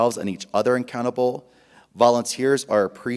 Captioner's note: none